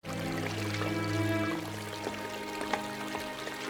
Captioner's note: intriguing music; running water